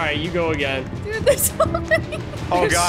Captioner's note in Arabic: يضحك